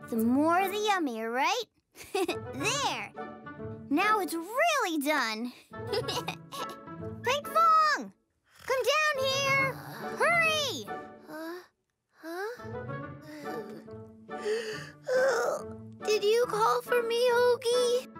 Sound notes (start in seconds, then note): 2.0 chuckles; 5.9 chuckles; 9.4 snoring; 15.0 yawns